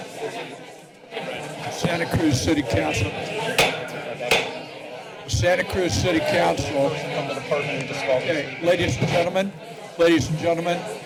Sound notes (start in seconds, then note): 4.3 gavel thuds